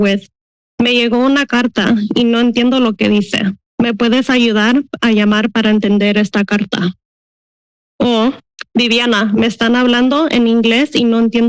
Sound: foreign language

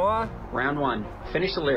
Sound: on phone

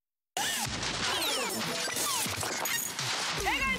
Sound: crashing Sound

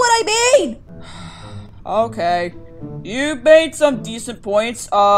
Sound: sighs

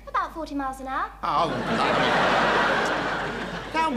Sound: audience laughing

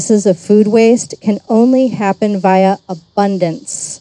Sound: none

